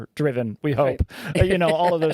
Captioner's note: laughing